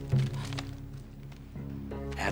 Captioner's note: gasps